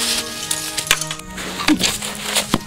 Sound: weapons clash; grunts; weapons clash

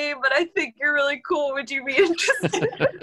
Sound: laughter

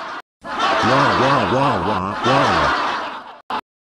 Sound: audience laughing; crying

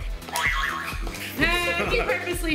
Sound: laughs; spring bounces

